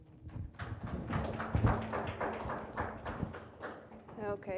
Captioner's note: audience claps